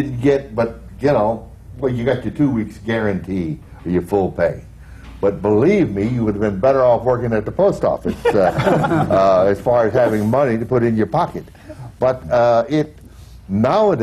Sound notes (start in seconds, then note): 8.0 laughter